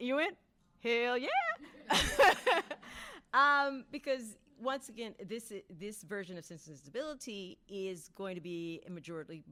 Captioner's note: laughing